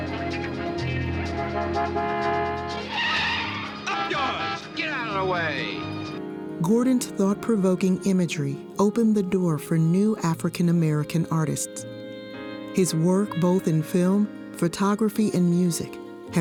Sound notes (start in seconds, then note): 1.4 horn honking; 2.9 brakes screeching; 4.2 horn honking